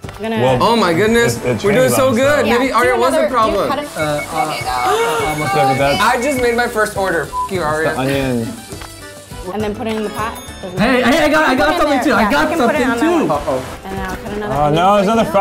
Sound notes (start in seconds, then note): 5.3 yelling; 7.2 beeps